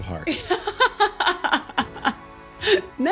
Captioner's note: laughs